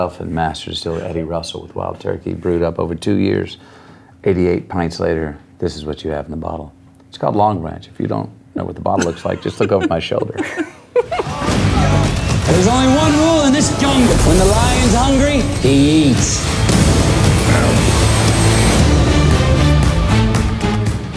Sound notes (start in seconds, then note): 10.5 laughing; 11.5 dramatic music; 17.4 growl; 18.2 dramatic music